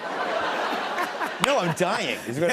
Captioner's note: laughter